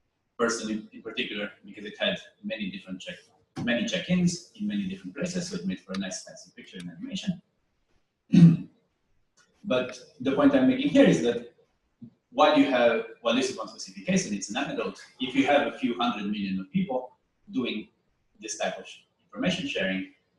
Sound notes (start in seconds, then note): 8.3 pause